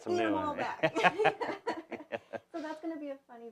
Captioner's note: both laughing